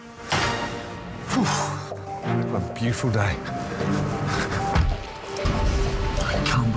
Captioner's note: Gordon sighs